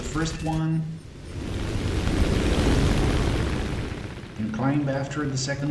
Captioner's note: aircraft Engines ,Gunfire, Flying Sounds